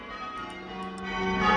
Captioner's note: bells ringing call changes